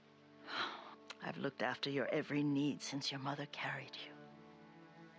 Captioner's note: sigh